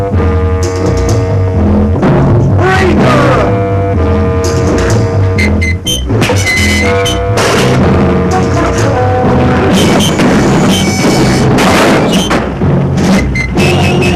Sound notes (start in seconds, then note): 0.2 tense music; 5.2 dramatic music; 7.9 lantern clatters; 11.2 dramatic music